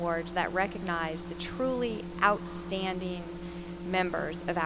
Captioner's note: none